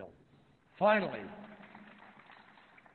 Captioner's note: applause